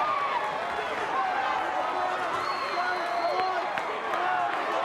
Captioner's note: crowd screaming